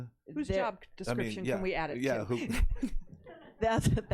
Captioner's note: laughs